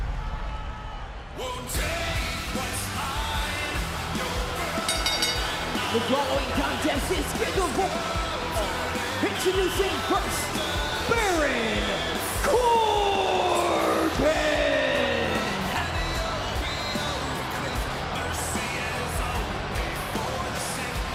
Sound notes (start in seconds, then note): 4.8 bell rings